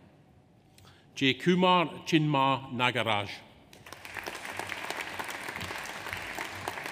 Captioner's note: audience applauds